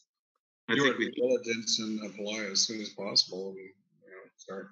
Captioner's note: murmurs